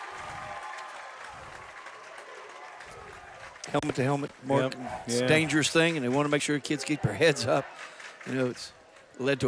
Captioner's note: applause